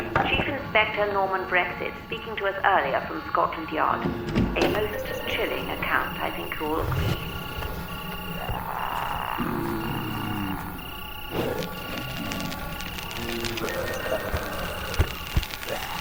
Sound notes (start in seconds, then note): 0.3 radio Announcer; 7.6 ominous music; 8.8 zombies growling; 10.4 fire whooshing